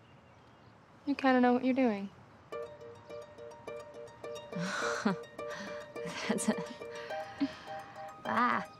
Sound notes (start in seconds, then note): 4.5 chuckles